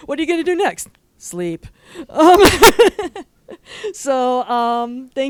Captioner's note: laughs